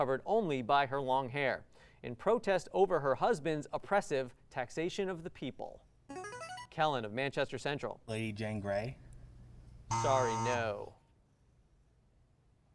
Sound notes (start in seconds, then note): 5.7 buzzer